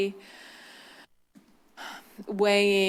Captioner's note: deep breath